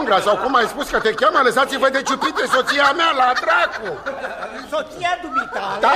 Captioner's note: laughter